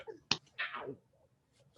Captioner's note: Peaches slaps